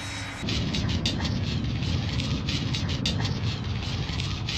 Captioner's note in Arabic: هدير منخفض، تشوهات